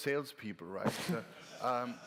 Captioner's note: laughter